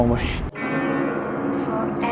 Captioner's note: bell